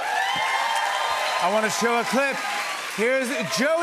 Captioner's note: cheers and applause